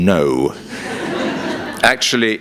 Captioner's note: laughter